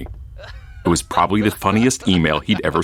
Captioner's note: man laughing